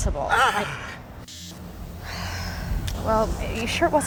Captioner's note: sighs